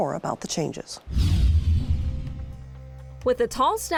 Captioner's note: air whooshing